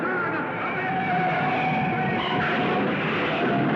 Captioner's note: tires squealing; car crashing